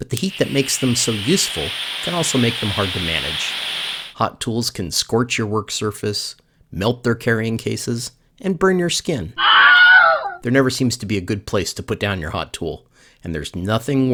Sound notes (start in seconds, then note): 9.4 scream